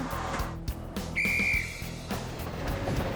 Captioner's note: whistle tweeting; train rumbling